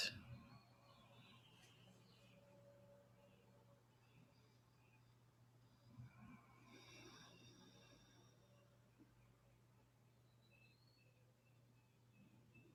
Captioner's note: silence